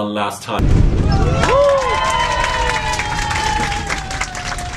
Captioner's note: cheering